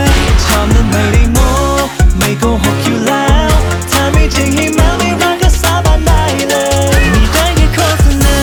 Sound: sound of thunder; sound of thunder

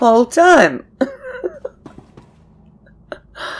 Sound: laughs

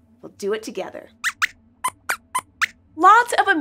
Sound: squeaks squeaks

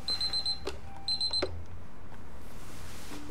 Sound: beeping stops

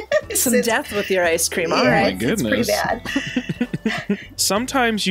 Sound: laughter

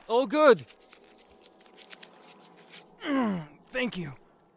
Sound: groans in pain

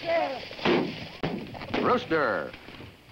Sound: guns firing

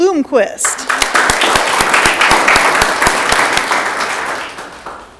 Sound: audience clapping

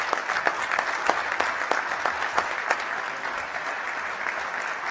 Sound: applause

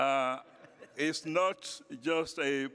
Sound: laughter

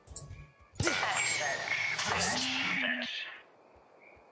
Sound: radio

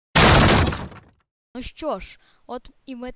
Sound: door kick

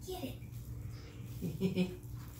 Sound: laughing

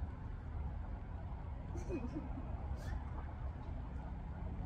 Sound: laughs

